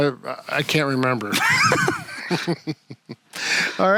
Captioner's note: both chuckle